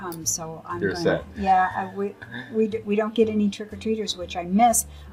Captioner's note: laughs